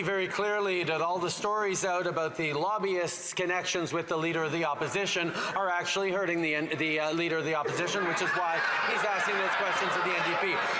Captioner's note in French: voix de l'interprète